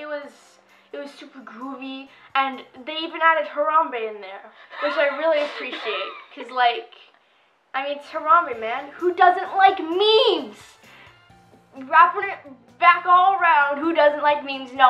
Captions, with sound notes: Like it was super groovy, and they even added Harambe in there, (laughing) which I really appreciate. 'Cause like, it's Harambe, man. Who doesn't like memes? Wrapping it back all around, who doesn't like memes?